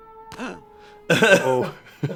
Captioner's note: gasps